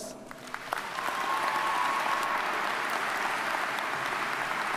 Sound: audience applauds

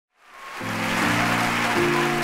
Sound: audience applauds; piano music

